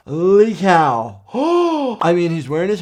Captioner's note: gasping